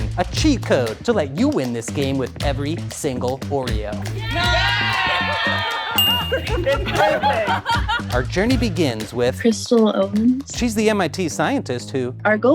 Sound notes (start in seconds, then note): 4.0 crowd cheers; 5.9 bell rings